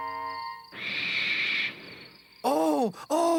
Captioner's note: screeching